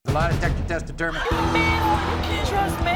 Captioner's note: audience oohs